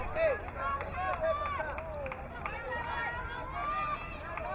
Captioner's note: crowd muttering